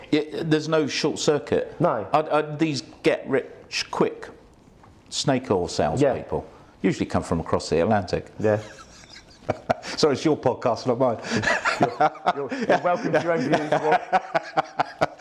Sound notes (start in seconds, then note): 8.6 laughs; 11.2 laughs